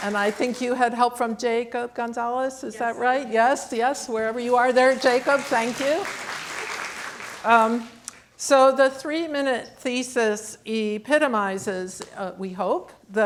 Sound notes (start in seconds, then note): 4.4 audience clapping